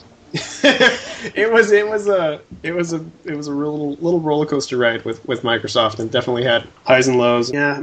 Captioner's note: laughs